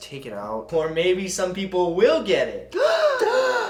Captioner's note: gasping in delight continues; gasping in delight